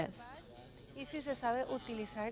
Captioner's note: speaking in foreign language